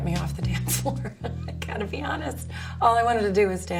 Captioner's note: laughs